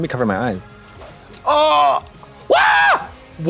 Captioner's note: Trixie squalls; Trixie gasps